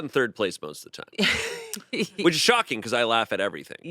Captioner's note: laughs